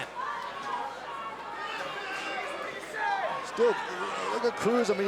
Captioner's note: crowd chatter